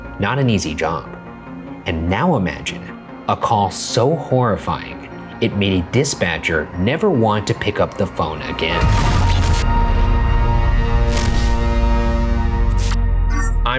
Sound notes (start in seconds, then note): 9.0 static whirring; 11.9 electronic ding; 11.9 static whirring